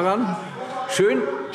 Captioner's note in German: Zurufe AfD